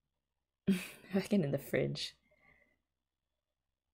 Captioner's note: chuckle